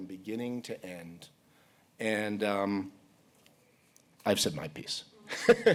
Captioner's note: laughs